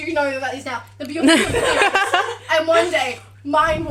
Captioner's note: laughter